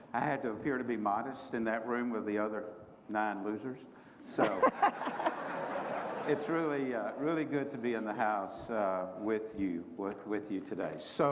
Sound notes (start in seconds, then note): 4.4 group laughter